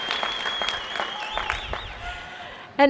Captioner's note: applause